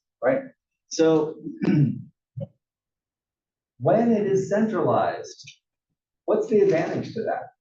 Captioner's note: cough